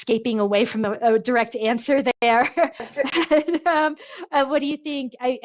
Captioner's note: laughs